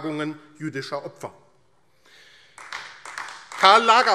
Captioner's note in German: Beifall AfD